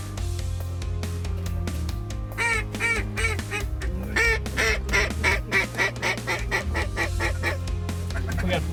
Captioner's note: duck calls